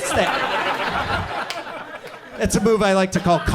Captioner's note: audience laughs